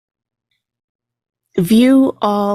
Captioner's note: click